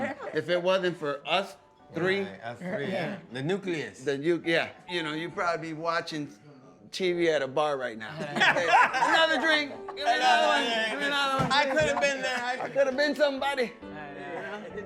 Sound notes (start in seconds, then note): 8.1 laughter